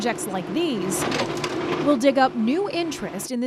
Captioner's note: machinery clinking